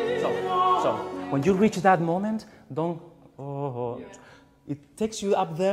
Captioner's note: hums